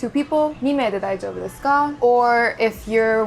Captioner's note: speaking Japanese